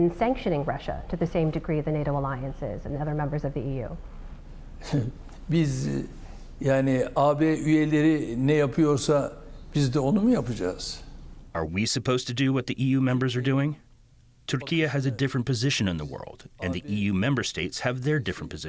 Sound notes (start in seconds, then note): 6.2 through translator